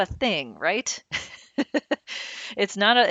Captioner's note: laughing